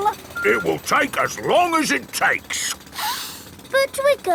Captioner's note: sniffs